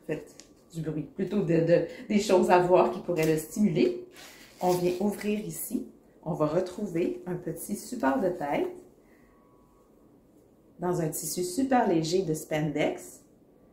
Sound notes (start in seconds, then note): 4.1 zipper opens